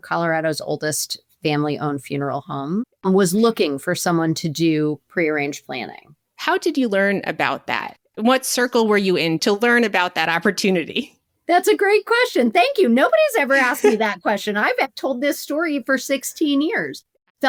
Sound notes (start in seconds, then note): 10.9 chuckles